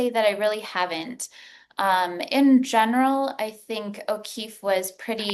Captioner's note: none